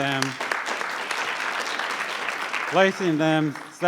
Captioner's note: audience clapping